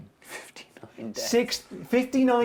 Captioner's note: laughing